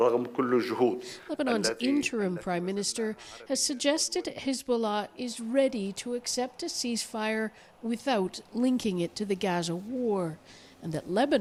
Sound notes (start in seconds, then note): 2.5 speaking alternate language